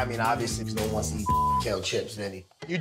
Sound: beep

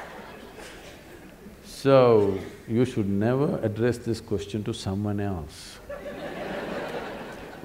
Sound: laughter

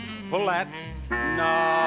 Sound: buzzer rings

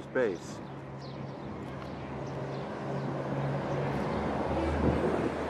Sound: wind whooshing

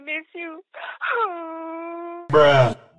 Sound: sad Dentist Noises

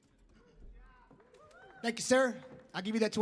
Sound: audience member cheers

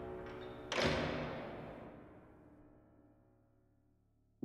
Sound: door shuts

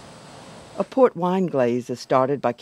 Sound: voiceover

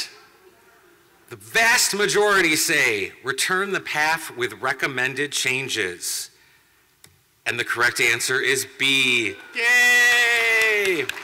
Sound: clapping

